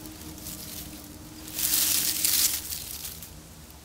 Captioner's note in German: Rascheln